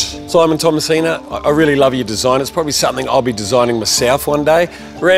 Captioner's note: none